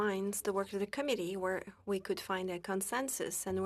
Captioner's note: speaking French